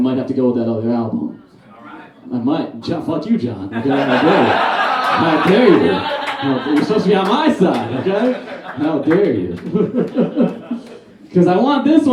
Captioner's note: audience Laughs